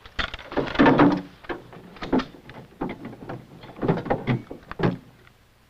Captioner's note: clanking